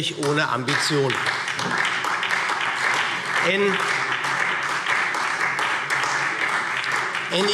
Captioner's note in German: Beifall SPD